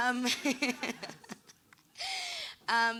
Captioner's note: laughing